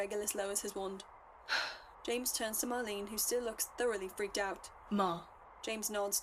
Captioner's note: exhales